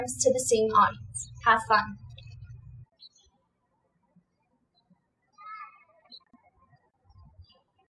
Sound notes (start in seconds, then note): 3.0 birds chirping